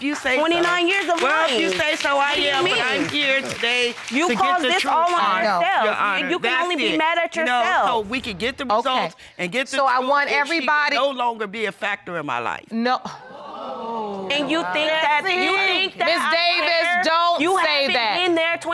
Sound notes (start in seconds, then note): 13.4 sighs